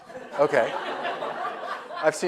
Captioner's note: audience laughs